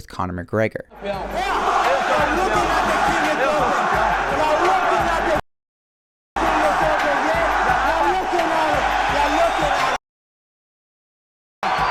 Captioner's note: audience cheering